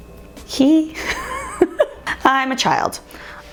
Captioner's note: laughing